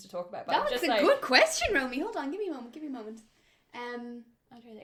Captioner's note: none